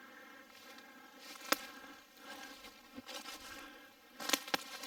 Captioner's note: twigs snapping